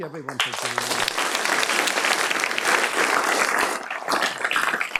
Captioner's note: clapping